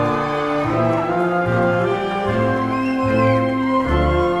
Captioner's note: crowd cheering